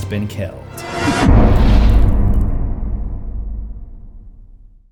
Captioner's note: impact